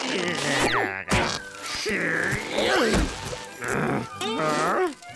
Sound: grunting, growling

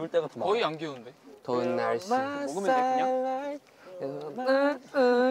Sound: humming song

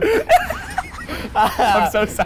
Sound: laughing

